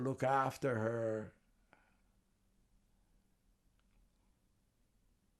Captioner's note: pauses 6 seconds